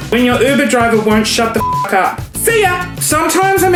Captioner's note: beep